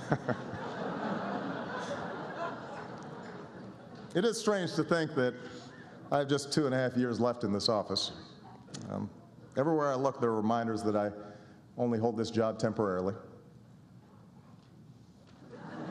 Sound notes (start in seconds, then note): 0.0 laughter; 15.4 laughter